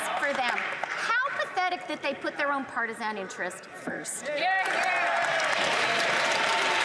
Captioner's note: some Applause